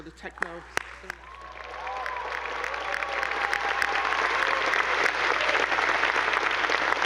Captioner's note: attendees applauding; audience cheering